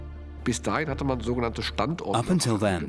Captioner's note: speaking German